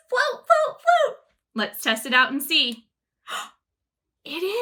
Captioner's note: gasps